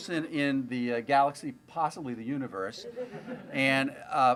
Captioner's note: laughter